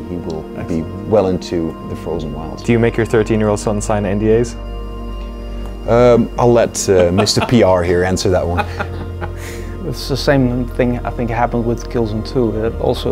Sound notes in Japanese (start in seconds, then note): 8.4 笑い